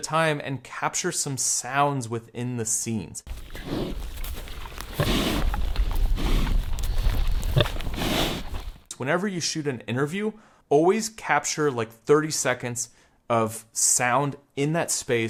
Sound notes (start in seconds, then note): 3.2 pig snorting